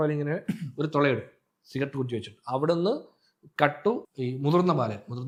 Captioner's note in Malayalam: തൊണ്ട ശരിയാക്കുന്നു